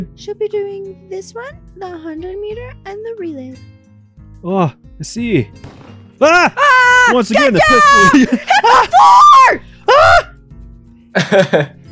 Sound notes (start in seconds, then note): 5.6 gunshot; 11.2 giggles